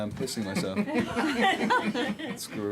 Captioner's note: all laugh